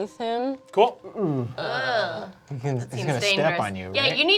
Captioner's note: group groaning